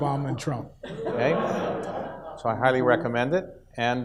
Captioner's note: audience laughs